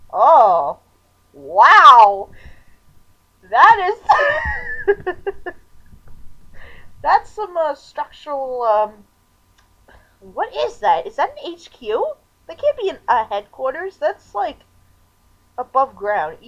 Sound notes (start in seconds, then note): 3.6 laughing